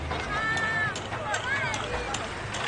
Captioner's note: hammer banging